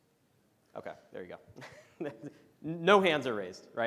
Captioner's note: chuckles